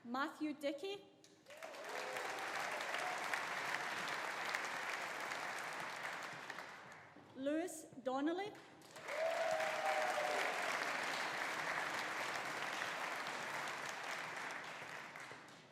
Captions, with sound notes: Matthew Dickie. (AUDIENCE APPLAUDING) (AUDIENCE CHEERING) Lewis Donnelly. (AUDIENCE APPLAUDING) (AUDIENCE CHEERING)